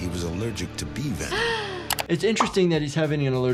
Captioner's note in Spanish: jadea